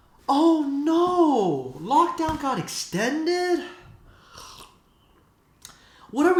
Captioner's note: slurps